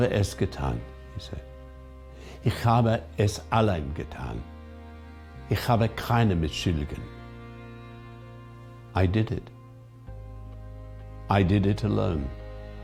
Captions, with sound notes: (speaking in foreign language) He said. (speaking in foreign language) I did it. I did it alone.